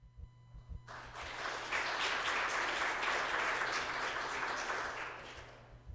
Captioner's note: applause